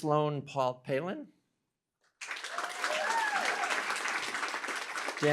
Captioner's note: cheering, applause